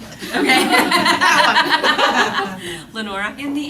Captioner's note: laughter